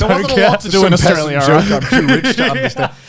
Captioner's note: laughs